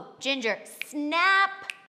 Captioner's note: fingers snapping